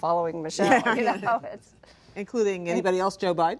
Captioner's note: laughter